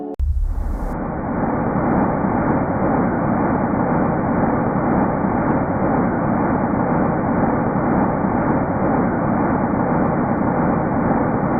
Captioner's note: sound of the ancient universe